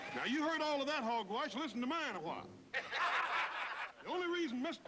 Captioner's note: laughter